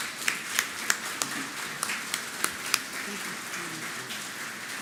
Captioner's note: applause